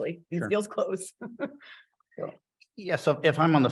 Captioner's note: chuckles